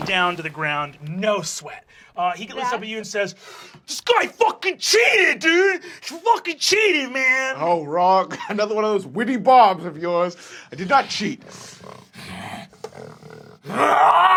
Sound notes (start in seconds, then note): 7.6 laughs